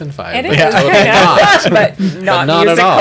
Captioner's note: laughter